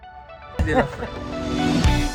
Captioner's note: laughing